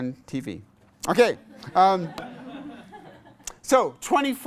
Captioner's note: class laughs